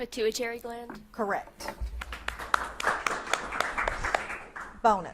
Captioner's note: audience claps